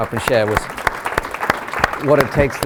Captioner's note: applause